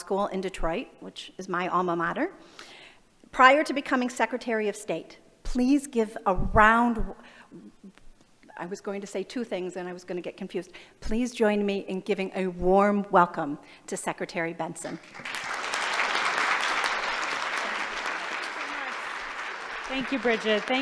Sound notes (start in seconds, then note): 14.9 applause